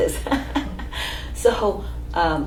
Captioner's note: laughs